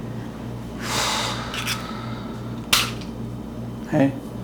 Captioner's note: sighs